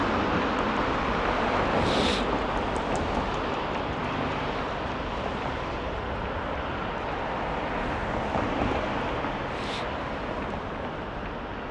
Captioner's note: wind Blowing